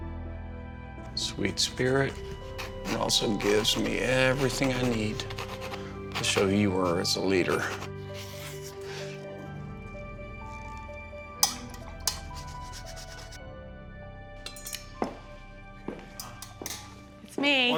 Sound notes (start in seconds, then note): 11.4 swirling; 15.8 footsteps